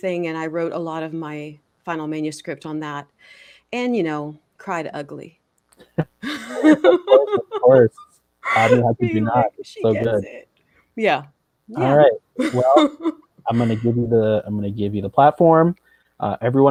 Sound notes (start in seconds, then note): 5.9 laughs